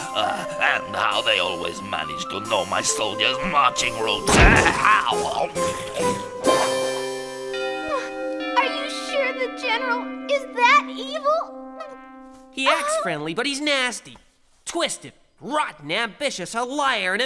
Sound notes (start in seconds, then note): 3.8 Bechamel chomping; 7.3 clock chiming